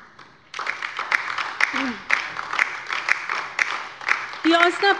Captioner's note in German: Beifall bei der LINKEN